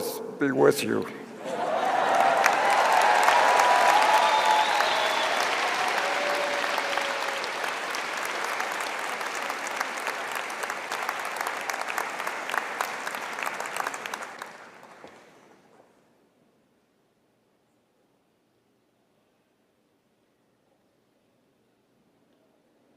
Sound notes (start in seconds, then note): 7.0 cheering and applause